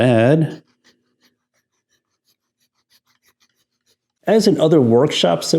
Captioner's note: file grinding